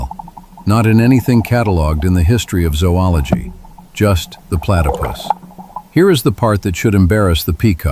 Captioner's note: ambient water flowing